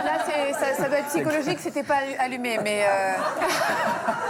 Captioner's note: laughter